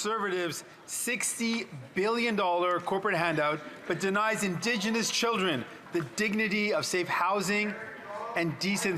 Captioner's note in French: voix de l'interprète